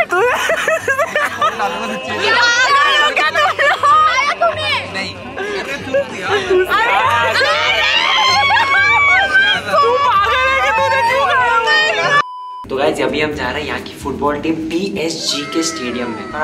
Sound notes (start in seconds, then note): 0.1 laughs in schadenfreude; 7.5 more screaming